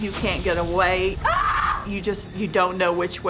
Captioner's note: screams